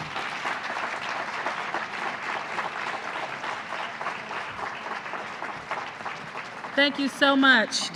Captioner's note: applause